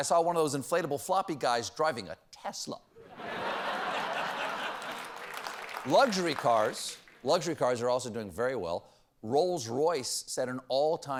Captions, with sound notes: TESLA. ( LAUGHTER ) ( APPLAUSE ) LUXURY CARS ARE ALSO DOING WELL.